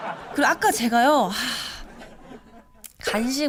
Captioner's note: sigh